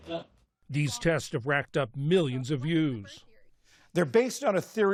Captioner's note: voice-over